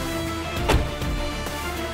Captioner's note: car door closes